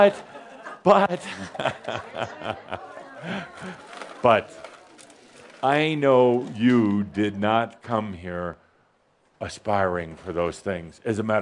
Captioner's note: chuckles